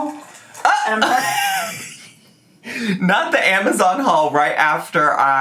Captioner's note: laughing